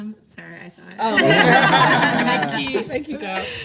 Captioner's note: everyone laughs